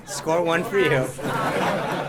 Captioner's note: laughter